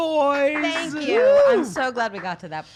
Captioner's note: applauding